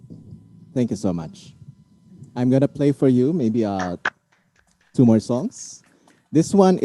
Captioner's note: clapping off camera